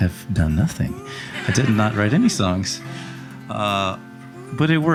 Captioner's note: audience laughing